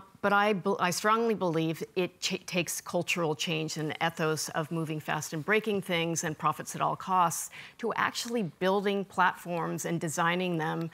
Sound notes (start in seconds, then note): none